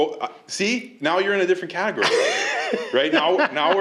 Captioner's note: laughter